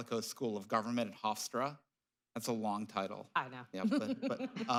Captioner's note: laughs